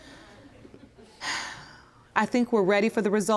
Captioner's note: sighs